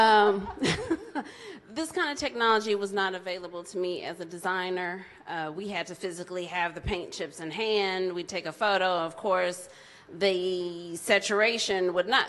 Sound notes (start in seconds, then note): 0.0 laughs; 0.9 mutters